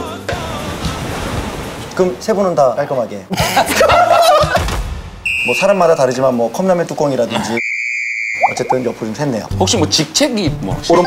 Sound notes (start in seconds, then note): 3.3 laughing